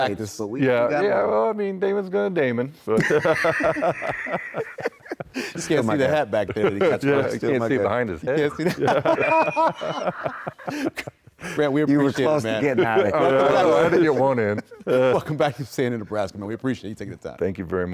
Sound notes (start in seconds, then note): 8.3 laughing